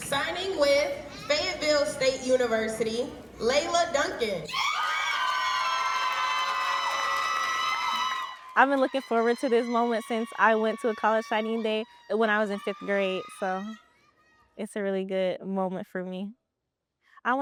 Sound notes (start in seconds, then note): 8.5 crowd cheering